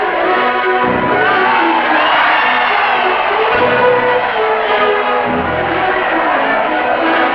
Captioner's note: applause